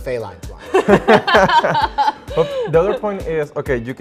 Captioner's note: laughing